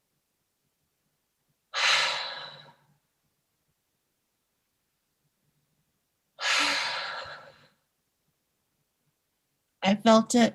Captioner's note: deep Breaths